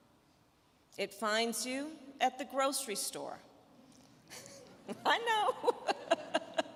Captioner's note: chuckling